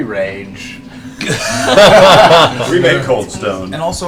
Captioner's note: laughter